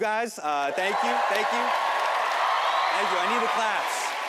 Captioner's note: audience applauds and cheers